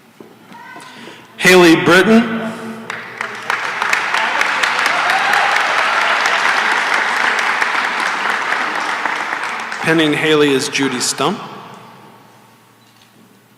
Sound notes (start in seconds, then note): 5.7 applause; 13.3 silence